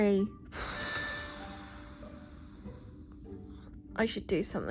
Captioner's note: blows air